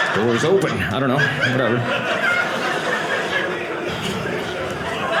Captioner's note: audience laughing